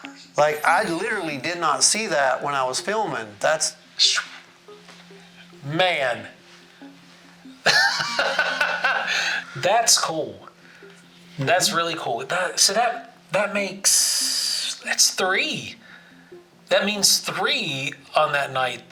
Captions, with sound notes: Like, I literally did not see that when I was filming. That's... - Man! (laughs) That's cool. That's really cool. So that makes, that's three, that means three on that night.